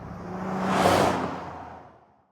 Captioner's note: whoosh